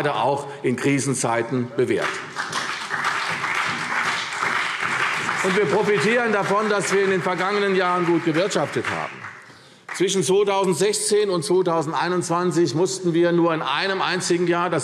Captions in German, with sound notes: das sich gerade auch in Krisenzeiten bewährt. [Beifall CDU und BÜNDNIS 90/DIE GRÜNEN] Wir profitieren davon, dass wir in den vergangenen Jahren gut gewirtschaftet haben. Zwischen 2016 und 2021 mussten wir nur in einem einzigen